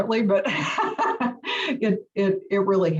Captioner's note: laugh